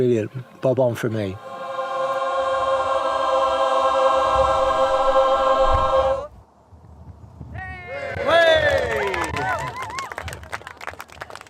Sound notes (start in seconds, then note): 3.3 the choir sing; 8.0 cheering and applause